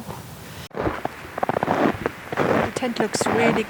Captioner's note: crunchin footsteps in the snow